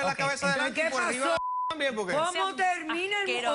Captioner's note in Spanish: Bip